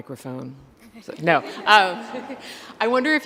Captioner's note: laughs